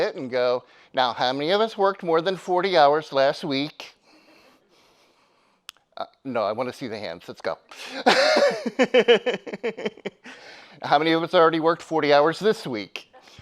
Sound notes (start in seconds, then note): 4.5 attendee giggling; 7.8 laughs